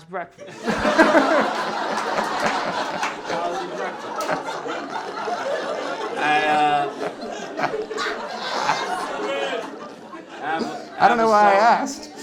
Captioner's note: laughter